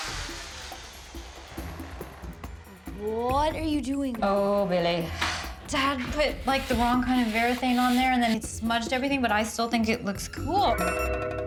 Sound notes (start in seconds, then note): 4.8 sighs